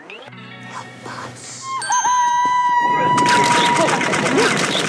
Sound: squealing

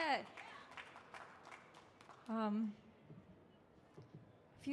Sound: applause

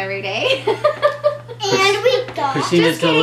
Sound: laughter

